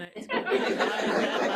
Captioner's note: laughter